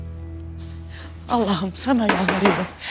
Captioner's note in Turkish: kapı vurulur